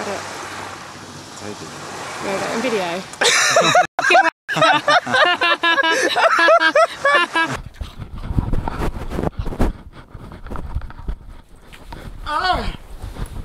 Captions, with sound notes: Are you taking a video? [Hearty laughter]